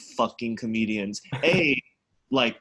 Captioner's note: laughs